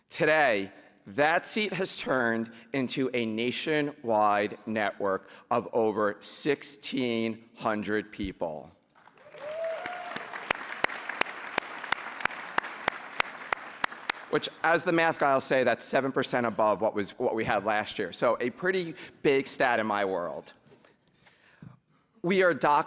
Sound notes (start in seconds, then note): 8.9 applause